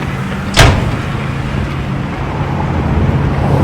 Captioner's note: engines rumbling; door slamming